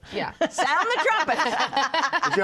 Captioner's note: laughter